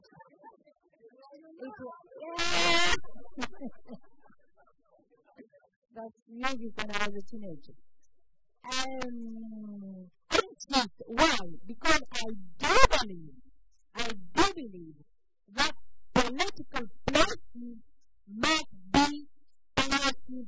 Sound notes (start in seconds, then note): 0.2 laughter; 4.2 laughs